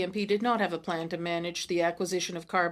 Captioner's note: speaking French